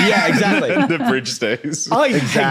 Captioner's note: laugh